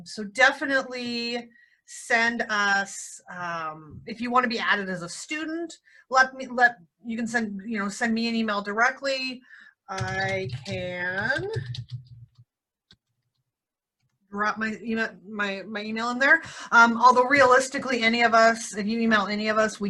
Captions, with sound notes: So definitely send us if you wanna be added as a student, you can send me an email directly. I can (keyboard clicking) dropped my email in there, although realistically, any of us, if you email any of us,